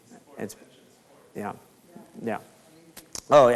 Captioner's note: speaks faintly